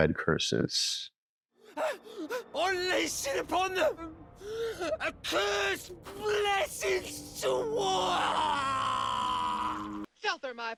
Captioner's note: screaming